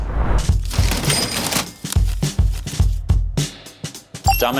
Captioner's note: change clattering; upbeat electronic music